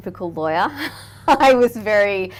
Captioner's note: laughing